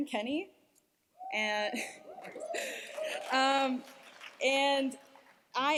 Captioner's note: cheers, applause